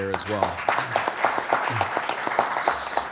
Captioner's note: applause